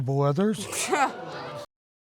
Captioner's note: scoffs